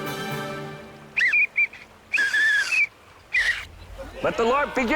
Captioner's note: pathetic Whistle Blow